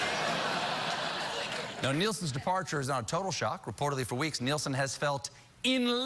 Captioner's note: laughter